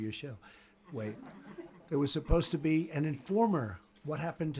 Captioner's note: laughter